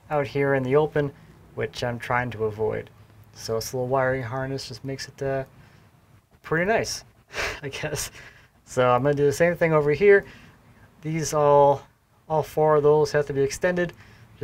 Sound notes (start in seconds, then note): 7.9 laughs